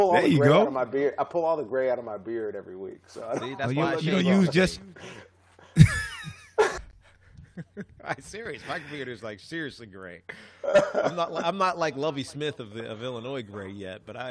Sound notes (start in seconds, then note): 5.6 laughter